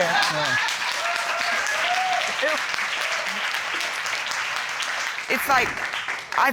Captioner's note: audience applauding